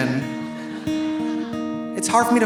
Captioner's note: audience laughing